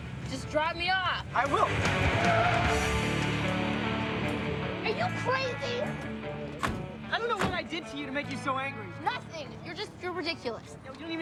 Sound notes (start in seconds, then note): 2.3 car screeches; 2.3 upbeat music